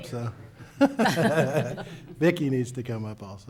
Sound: laughing

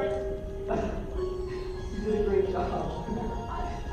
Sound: chuckles

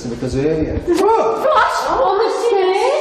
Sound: shouts

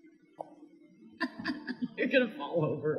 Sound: laughing

